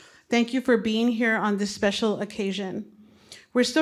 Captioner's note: none